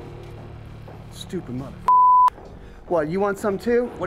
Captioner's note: tense music; beep